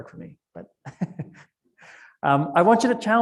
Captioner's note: laughs